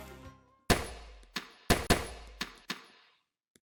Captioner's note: sound of bullets hitting screen